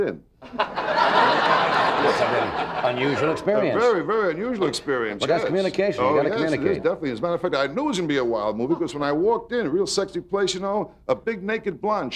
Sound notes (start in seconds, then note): 0.4 audience laughing